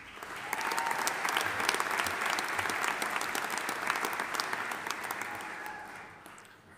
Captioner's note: audience applauding; audience cheering